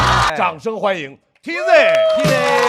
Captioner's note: applause